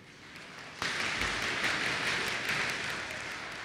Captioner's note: applause